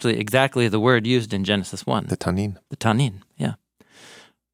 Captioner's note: speaking in foreign language